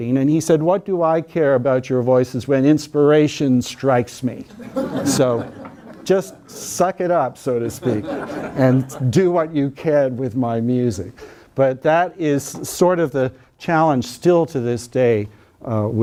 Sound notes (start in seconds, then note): 4.5 students laughing